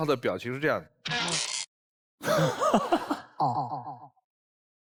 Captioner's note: laughs